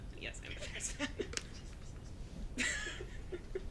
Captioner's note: laughing